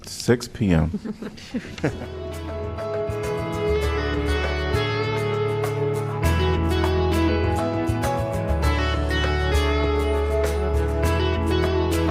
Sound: laughter

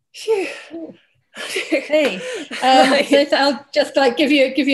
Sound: laughs

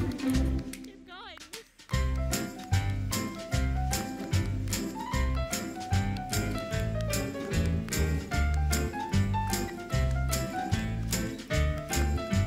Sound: jaunty music; cheering

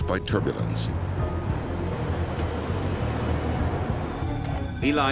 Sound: plane passing

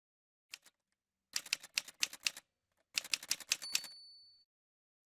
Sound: typewriter sounds

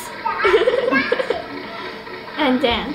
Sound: laughing

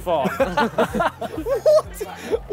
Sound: laughing

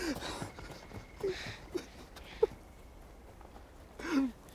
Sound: sobbing

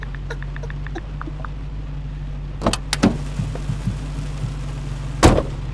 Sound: phone pings and giggling

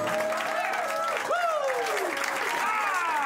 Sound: cheers and applause

